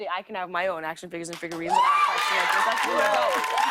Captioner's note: cheers and applause